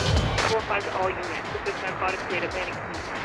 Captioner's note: speaking in foreign language; tires screeching